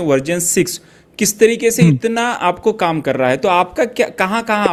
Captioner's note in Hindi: गला साफ़ करने की आवाज़